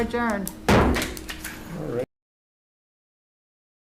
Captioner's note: gavel bangs